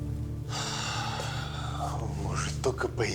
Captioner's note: sighs